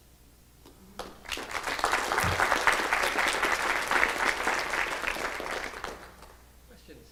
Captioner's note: clapping